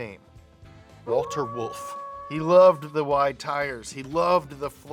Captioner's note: wolf howls